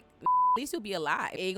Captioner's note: beep